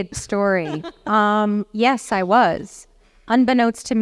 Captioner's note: laugh